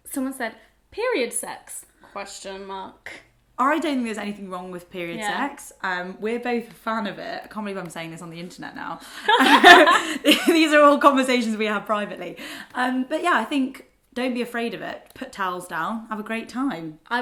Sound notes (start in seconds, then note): 9.2 both laugh